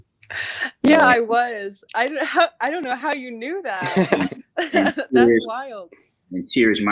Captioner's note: chuckles